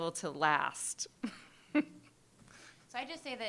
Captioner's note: laughing